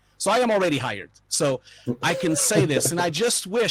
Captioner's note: laughing